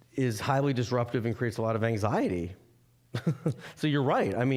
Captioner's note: chuckling